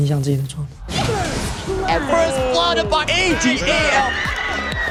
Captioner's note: automated voice in English; indistinct chatter